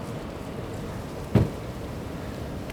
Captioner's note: door slam